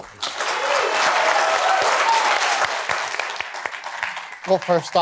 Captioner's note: cheers and applause